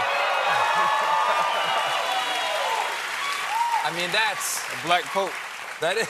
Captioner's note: cheers and applause